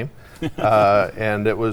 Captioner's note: laughing